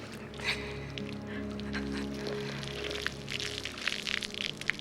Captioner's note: sobbing